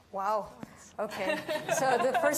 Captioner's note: laughing